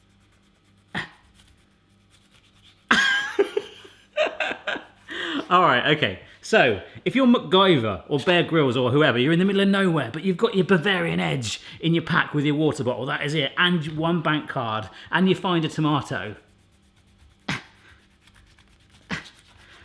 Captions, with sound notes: (laughs) All right okay, so if you're MacGyver or Bear Grylls, or whoever, you're in the middle of nowhere, but you've got your Bavarian Edge in your pack with your water bottle, that is it, and one bank card, and you find a tomato.